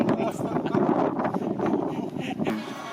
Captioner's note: laughter